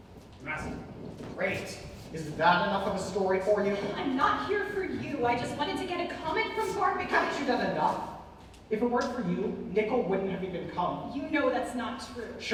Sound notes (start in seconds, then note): none